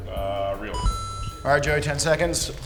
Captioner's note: bell dings